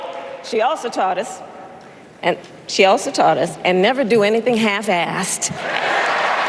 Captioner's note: applause